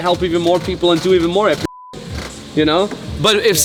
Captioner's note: beep